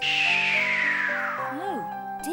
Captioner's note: shrieking